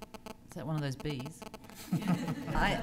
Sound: laughter

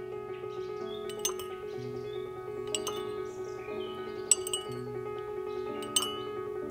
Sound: gentle piano music; spoon stirs the tea

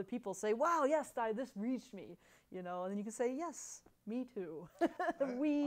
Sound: laughs

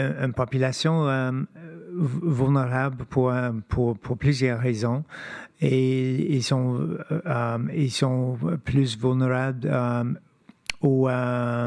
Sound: speaking French

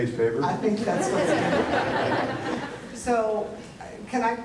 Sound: audience laughter

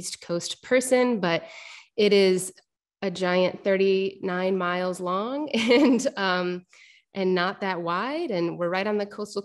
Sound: laughter

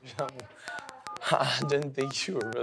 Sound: phone beeps

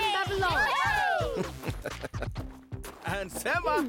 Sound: cheering; chuckling

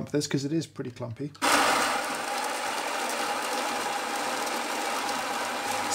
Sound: coffee grinder grinding

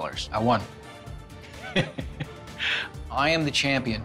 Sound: laughaughs

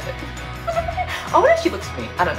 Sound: laughs

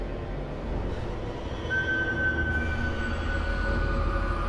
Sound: none

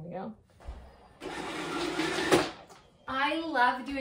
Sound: vacuum whirring

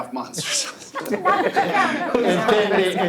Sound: all laugh

